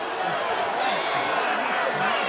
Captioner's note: crowd boos